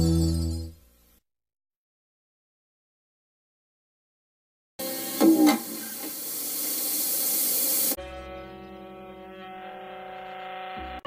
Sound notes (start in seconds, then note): 1.8 silence